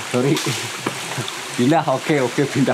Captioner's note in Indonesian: suara lemparan kayu